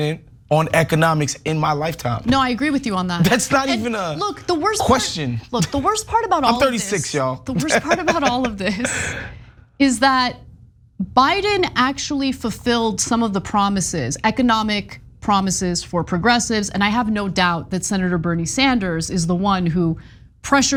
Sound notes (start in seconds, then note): 7.5 laugh